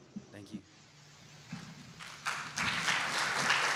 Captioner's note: applause